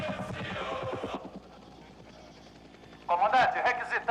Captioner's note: soldier #1 On Radio; soldier #2 On Radio